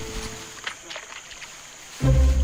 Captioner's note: water rustling; bright upbeat music